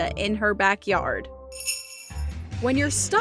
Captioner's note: bells jingling